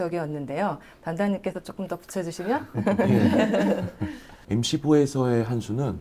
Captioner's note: laughs